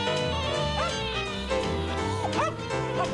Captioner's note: arf arf